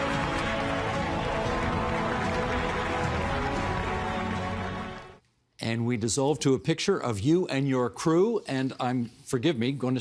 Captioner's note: cheering